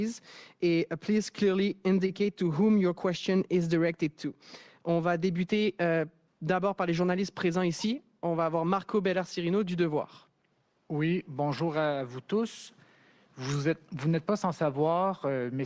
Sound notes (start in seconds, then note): 5.6 speaks French; 12.4 speaks French